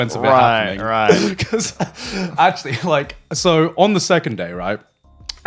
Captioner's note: chuckling